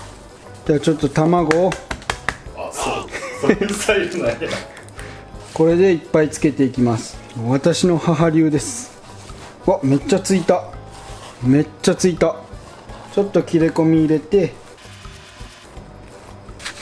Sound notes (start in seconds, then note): 2.6 haha